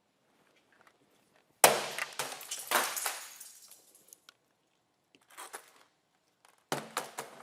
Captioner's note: bat slamming and keyboard clattering